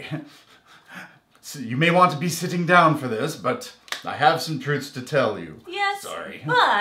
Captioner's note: laugh